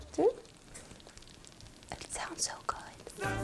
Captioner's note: liquid bubbling